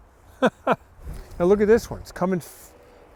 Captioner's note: laughs